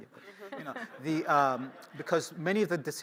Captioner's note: laughter